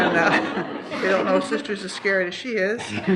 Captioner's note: laughter